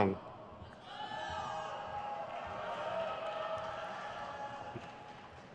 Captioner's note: crowd cheers